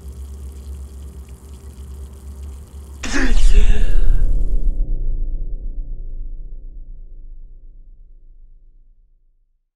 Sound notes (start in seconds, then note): 3.0 suspenseful music; 3.0 gasps for breath